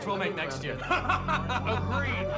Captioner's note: laughing